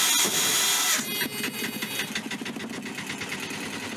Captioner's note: engine starter noise; engine successfully started noise